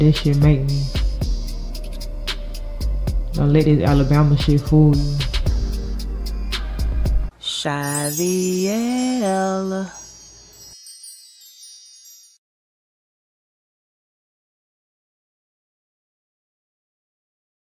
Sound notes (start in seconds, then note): none